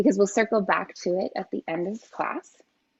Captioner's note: none